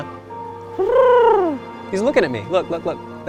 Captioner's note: making trilling sound